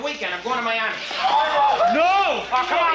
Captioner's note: crowd exclaims excitedly